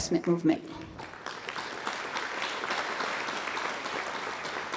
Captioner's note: applause